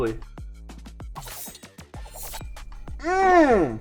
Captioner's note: metal ringing